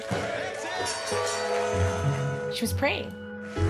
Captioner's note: bell dings